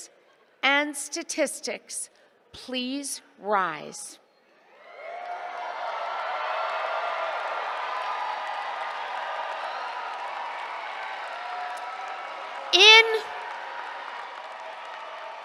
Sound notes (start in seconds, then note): 4.3 cheers, applause